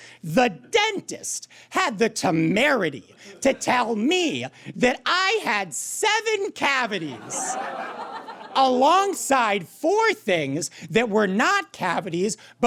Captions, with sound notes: the dentist had the temerity to tell me that I had seven cavities! (audience cackles) Alongside four things that were not cavities,